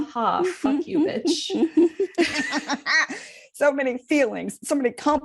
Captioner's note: sad cackles